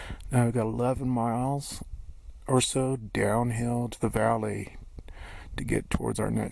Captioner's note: none